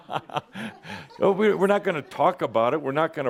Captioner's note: chuckles